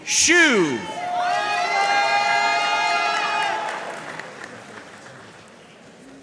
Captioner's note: audience cheering and applauding